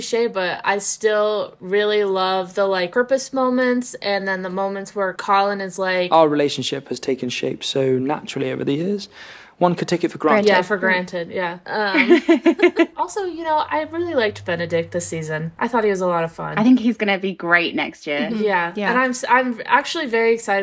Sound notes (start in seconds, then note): 11.9 laughing